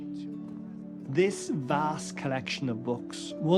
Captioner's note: voice-over